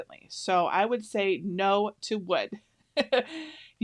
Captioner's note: laughs